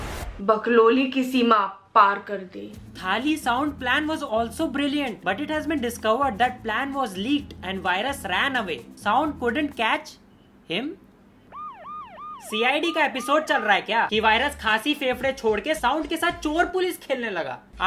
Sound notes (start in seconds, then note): 11.4 police siren